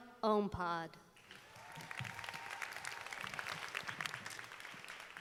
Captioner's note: audience applauding